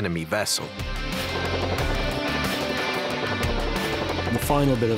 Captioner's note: machine gun firing